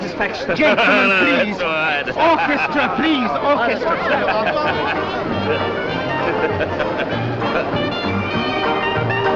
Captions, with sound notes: - Gentlemen, please. - That's all right. Orchestra. Please, orchestra. (Marwitz continues to laugh)